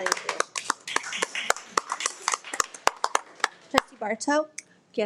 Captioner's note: everyone applauds